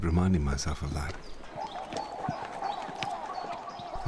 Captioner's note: bird calls